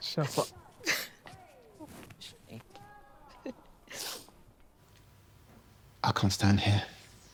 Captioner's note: Grace chuckling